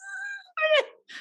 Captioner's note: Jan laughs